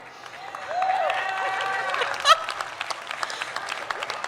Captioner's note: audience cheers